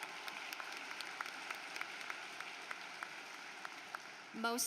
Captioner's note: applause